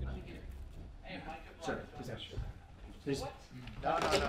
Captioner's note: office chatter